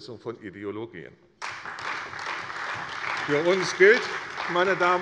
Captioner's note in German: Beifall bei der CDU und dem BÜNDNIS 90/DIE GRÜNEN